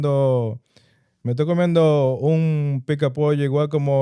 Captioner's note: speaking In Foreign Language